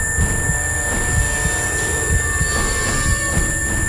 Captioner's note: tone droning